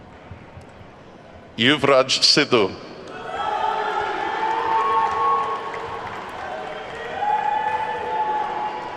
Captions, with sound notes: Yuvraj Sidhu. (attendees whooping and clapping)